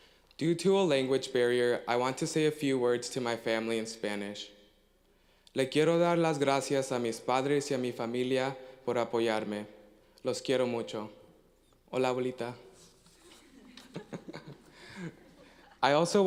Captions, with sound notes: Due to a language barrier, I want to say a few words to my family, in Spanish. (foreign language) (chuckle)